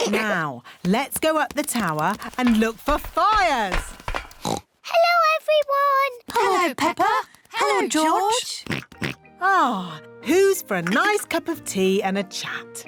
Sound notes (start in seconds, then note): 4.4 oinks; 8.6 oinks